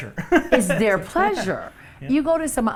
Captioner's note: laughs